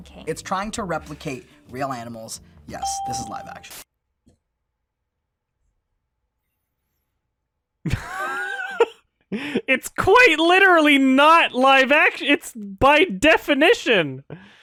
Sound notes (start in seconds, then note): 7.9 laughs